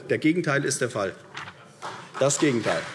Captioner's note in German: Beifall CDU